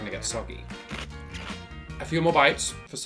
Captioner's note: lettuce crunches